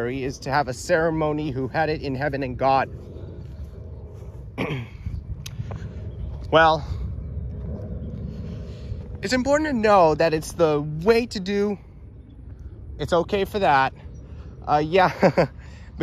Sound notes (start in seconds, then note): 4.5 clears throat; 15.0 chuckles